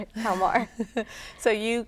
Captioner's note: laughter